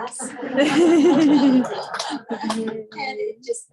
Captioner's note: laughing